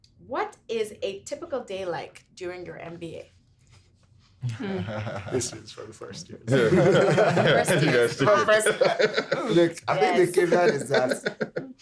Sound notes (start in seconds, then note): 6.5 everyone laughing